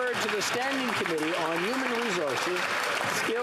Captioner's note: applause